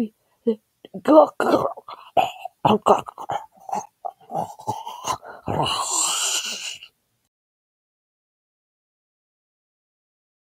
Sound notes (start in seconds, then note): 1.4 chokes